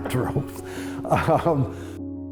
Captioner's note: chuckles